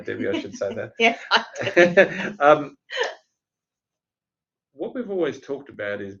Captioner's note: laugh